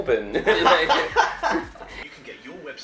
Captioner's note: laughing